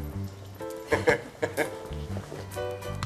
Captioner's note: chuckling